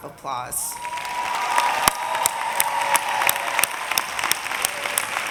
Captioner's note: audience applauding